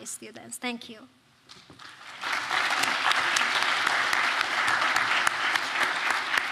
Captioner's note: applause